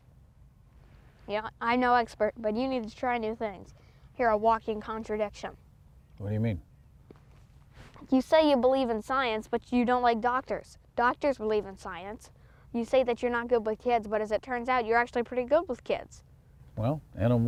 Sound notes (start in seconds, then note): none